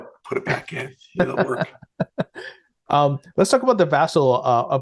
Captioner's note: laughing